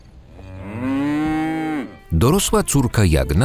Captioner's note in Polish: muczenie; skoczna muzyka